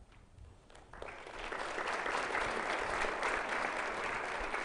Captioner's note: audience applauding